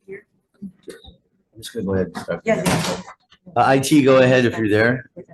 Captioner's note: faintly speaking